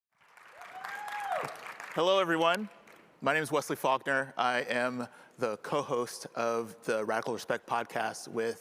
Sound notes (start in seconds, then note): 0.2 audience cheers and applauds